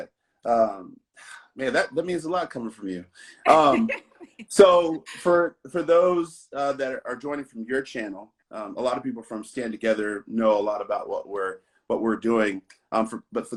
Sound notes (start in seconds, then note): 3.4 laughs